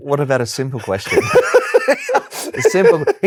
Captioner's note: laughs